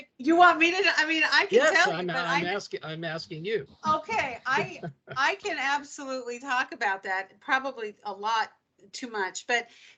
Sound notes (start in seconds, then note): 3.9 laughing